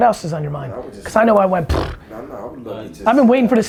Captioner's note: vomit noise